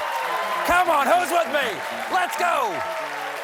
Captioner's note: cheers and applause